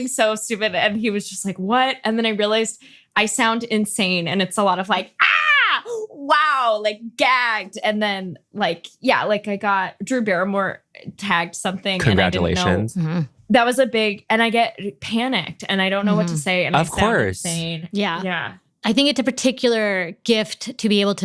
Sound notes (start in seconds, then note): 5.2 screams